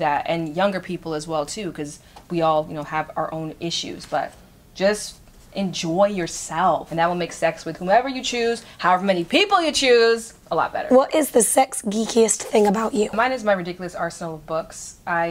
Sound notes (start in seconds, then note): none